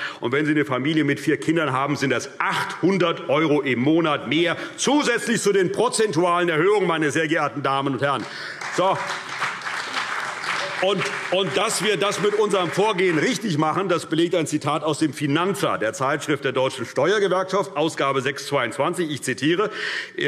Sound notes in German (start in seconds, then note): 8.1 Beifall CDU und BÜNDNIS 90/DIE GRÜNEN